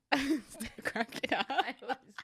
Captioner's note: laughs